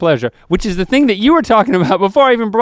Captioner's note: chuckles